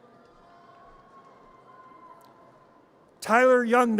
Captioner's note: audience cheers